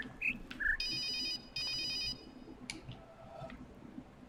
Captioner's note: ringing phone